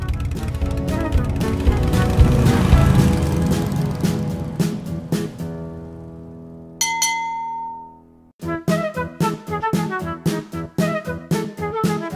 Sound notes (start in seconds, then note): 6.8 bell ringing; 8.6 bright upbeat music